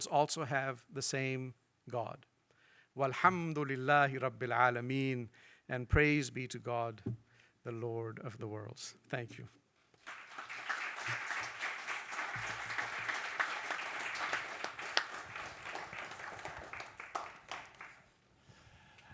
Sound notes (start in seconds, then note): 3.2 speaks in foreign language; 9.9 audience clapping